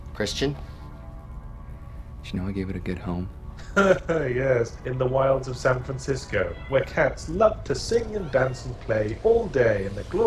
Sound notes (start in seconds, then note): 3.6 laughs; 4.2 voiceover